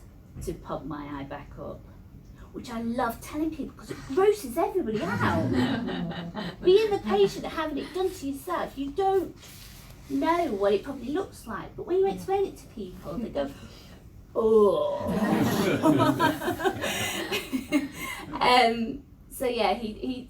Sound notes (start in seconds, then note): 5.0 laughs; 18.0 laughter